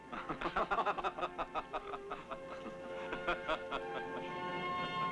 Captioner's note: laughing; grandiose music